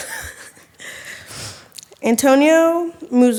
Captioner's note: laughing